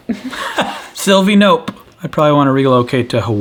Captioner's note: laughs